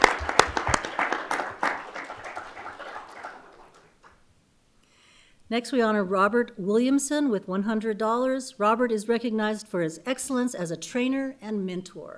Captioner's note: applause